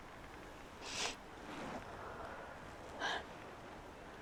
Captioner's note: sniffling